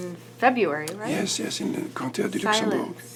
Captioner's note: speaks in French